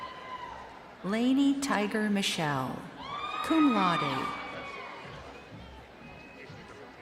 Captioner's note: crowd cheering